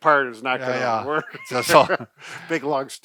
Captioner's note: laughs